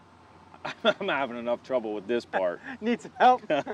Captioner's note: laughs; laughs